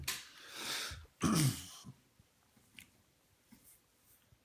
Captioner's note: man coughs